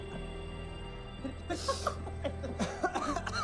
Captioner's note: laughs